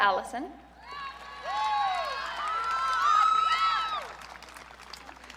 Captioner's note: audience cheering